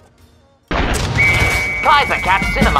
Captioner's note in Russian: свист